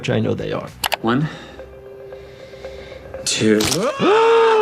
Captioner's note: Hughie screams